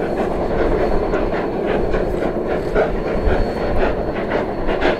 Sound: rotary chugging

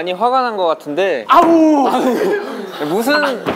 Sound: screaming

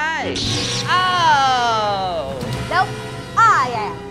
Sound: yells

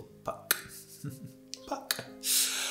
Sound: he laughs

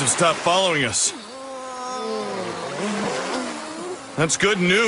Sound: students groan

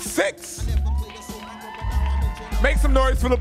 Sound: audience cheering

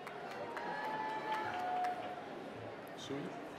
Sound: applause

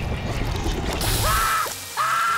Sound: screaming

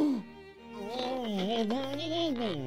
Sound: moaning

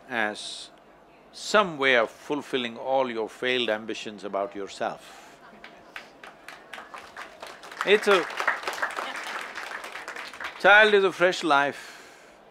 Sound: applause

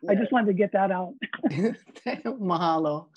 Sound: all laughing

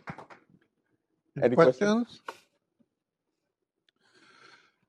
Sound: applause

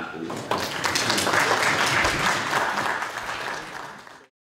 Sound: audience applauds

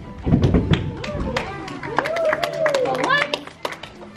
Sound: audience applause

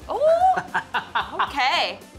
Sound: laughing

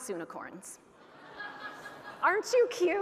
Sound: audience laughing

